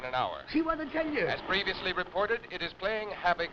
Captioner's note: radio Announcer